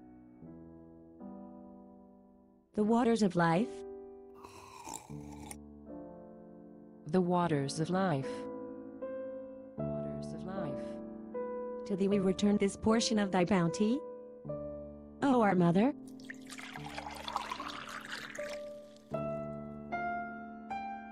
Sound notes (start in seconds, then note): 4.4 sip noise